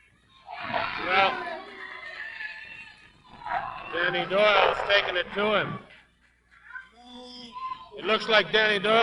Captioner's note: audience clapping